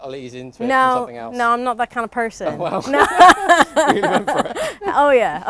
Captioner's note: they laugh